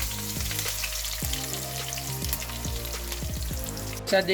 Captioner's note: sizzzzzzzzlllllleeeeeee